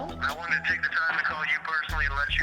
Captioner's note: on phone